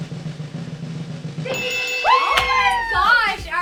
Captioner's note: bells chiming